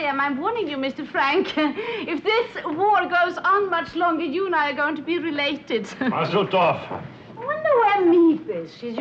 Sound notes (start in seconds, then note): 1.4 chuckles; 5.5 chuckles